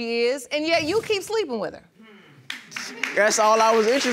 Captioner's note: crowd applauding